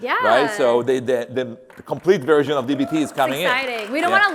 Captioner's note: applause